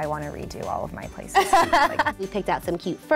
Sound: laughs

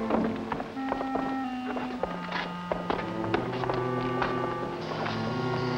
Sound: foreboding music; footsteps clanging; foreboding music

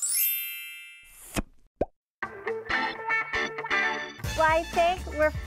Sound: chime; pop

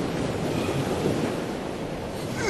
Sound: sighs; sobbing

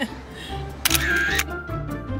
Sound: camera clicks; upbeat music

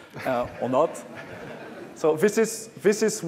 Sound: laughter

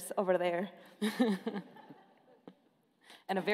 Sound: laughing

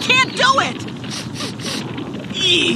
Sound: sniffing

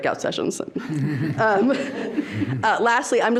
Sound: people laughing

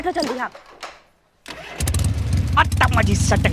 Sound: engine sound

